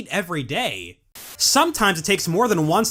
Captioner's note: static